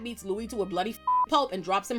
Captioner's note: beep